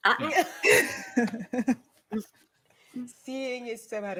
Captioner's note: laughing